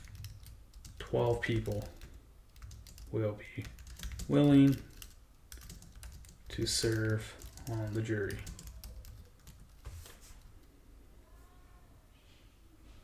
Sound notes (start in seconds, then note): 8.5 keyboard clicking